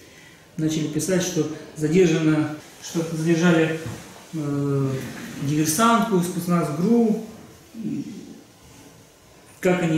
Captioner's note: Russian